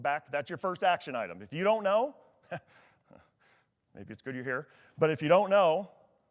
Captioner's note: chuckles